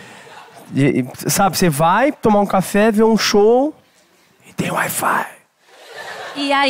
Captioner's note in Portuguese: sussurra